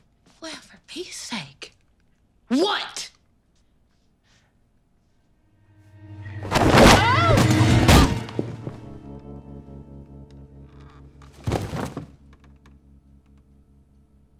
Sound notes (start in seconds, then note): 8.0 loud thud